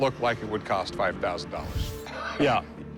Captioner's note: laughs